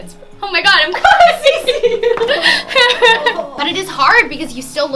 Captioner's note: laughing